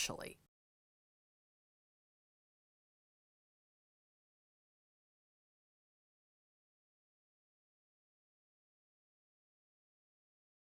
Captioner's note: no Sound Present